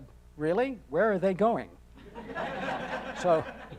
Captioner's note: audience laughing